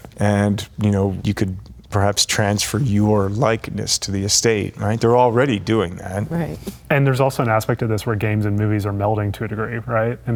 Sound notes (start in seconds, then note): none